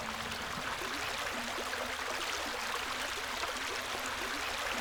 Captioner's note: stream runs